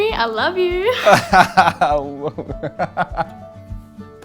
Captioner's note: laughs